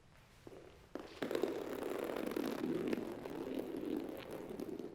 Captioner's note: plastic rolling